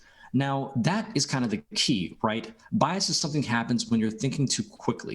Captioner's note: speaking French